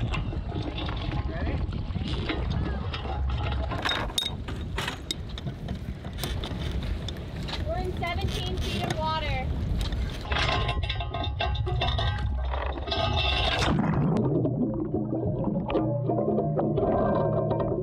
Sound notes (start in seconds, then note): 0.1 anchor rattling; 9.7 anchor rattling; 12.3 water bubbling